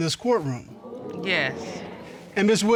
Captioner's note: audience exclaims